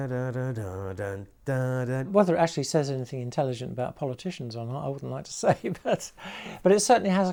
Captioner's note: humming